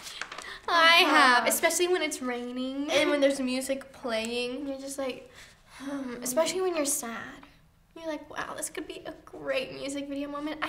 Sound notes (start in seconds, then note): 5.7 sighs